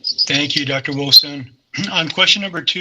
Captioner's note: clears throat